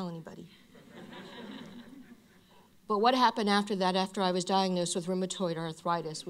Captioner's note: laughter